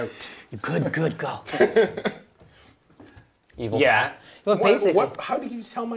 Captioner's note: laughter